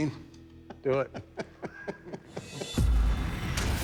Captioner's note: laughing